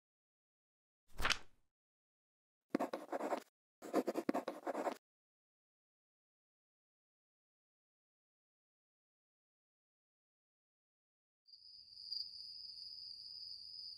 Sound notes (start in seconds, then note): 3.8 quill scratching